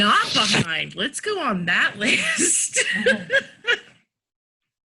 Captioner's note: laughs